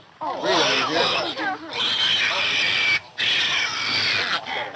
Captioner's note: piglet squealing